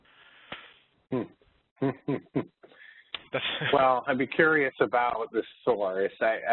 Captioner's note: laughing